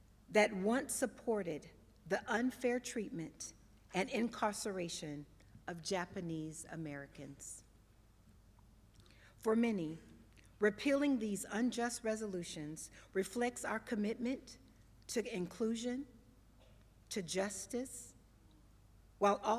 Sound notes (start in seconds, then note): none